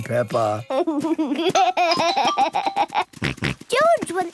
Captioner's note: giggles, snorts